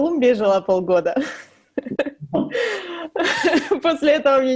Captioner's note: laughs